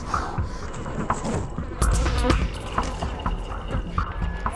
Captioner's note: flies buzzing